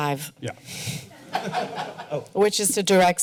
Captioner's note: laughter